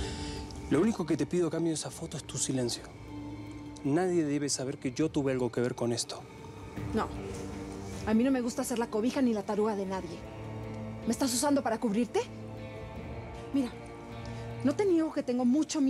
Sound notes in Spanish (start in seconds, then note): none